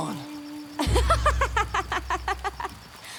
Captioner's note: Katara laughing